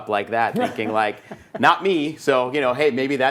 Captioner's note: laughing